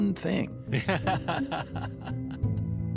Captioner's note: laughs